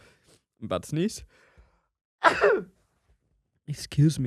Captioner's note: sneezes